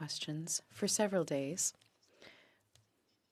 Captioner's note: speaking French